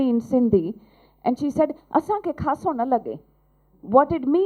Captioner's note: non-english speech